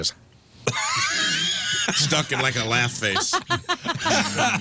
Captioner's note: laughing